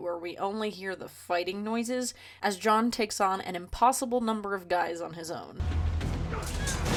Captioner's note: fighting noises